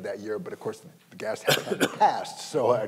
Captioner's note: coughing